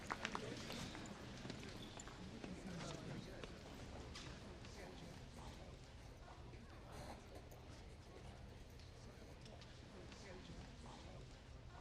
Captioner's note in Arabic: المحادثات الخلفية